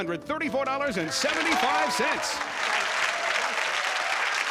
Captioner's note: applause